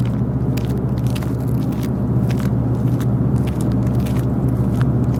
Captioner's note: footsteps